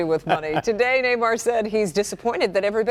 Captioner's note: laughter